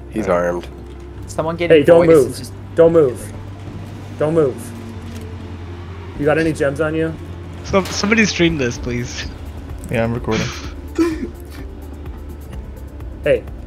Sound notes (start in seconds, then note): 10.2 laughs